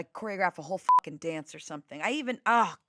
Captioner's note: beep